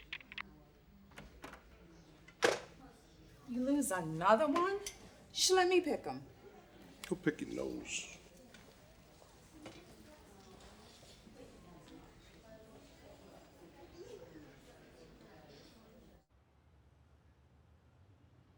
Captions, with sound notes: (telephone receiver clicking) - You lose another one? You should've let me pick 'em. - Go pick your nose. (people chattering quietly)